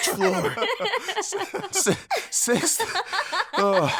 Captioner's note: laughs